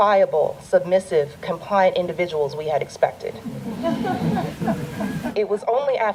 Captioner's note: audience laughter